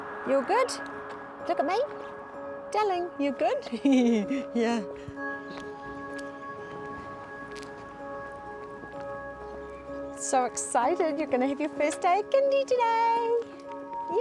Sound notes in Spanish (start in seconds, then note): 3.7 risas; 5.1 Música etérea